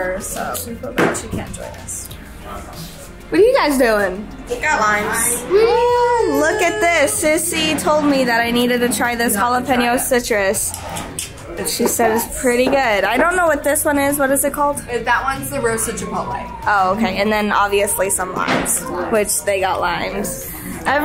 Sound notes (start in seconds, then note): 10.7 tongue clicks